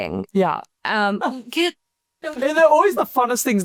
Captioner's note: laughs